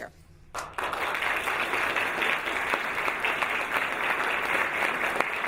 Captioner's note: audience applauding